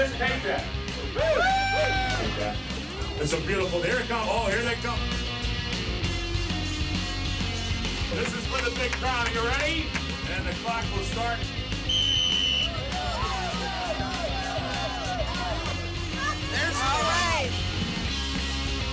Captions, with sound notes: This is beautiful, there it comes, oh here they come! (rock music) This is for the big crown, are you ready? And the clock will start. (whistle blows) (crowd cheering) (rock music)